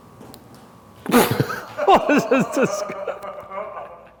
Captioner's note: laughter